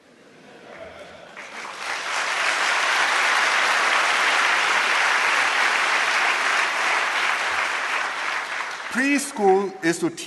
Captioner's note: laughter and applause